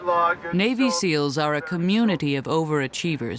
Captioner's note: voiceover